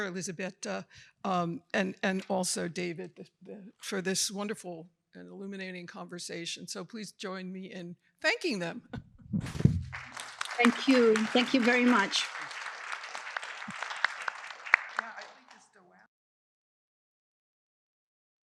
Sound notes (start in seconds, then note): 9.5 audience applauding